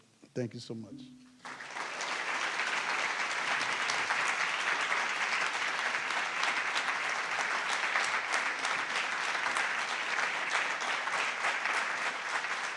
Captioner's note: applause